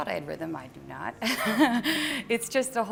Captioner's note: laughs